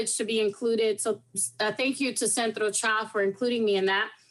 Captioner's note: speaking in foreign language